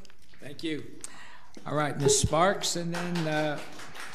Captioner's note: audience applauds